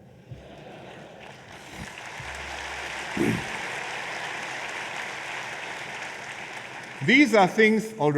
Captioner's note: laughter and applause